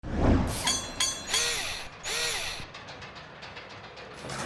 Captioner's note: mechanical SFX